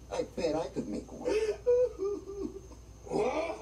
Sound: sobbing

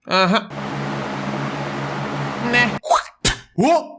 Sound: fan sound; someone spitting

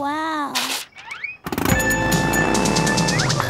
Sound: revs up

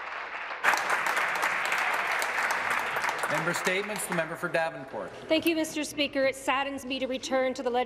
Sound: applause

